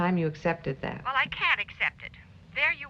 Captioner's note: on phone